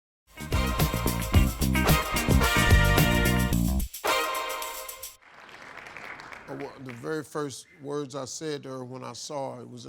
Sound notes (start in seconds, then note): 0.3 upbeat music; 5.1 crowd clapping